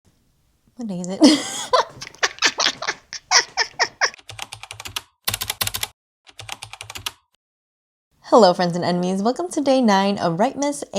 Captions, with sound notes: What day is it? [laughs] [typing] Hello friends and enemies! Welcome to Day 9 of Writemas